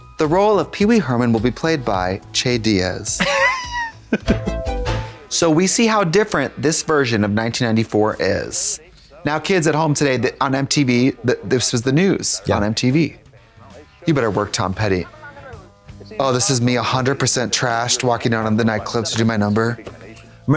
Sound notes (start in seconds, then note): 3.2 Katya wheezes; 4.2 electronic bop